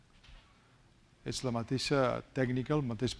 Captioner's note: speaking spanish